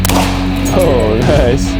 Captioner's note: group laughing; gun bangs